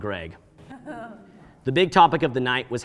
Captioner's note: audience laughing